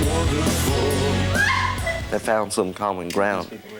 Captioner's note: screams